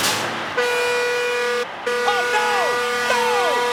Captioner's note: truck honks